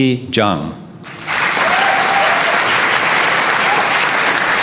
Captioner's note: applause